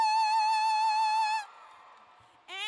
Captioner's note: cheers